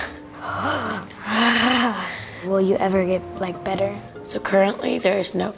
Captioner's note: inhales; chuckles